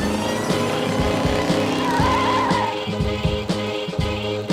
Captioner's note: engine revving; upbeat electronic music